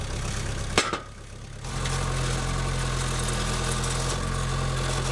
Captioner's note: engine roaring; wood clunking